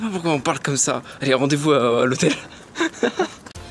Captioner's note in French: rires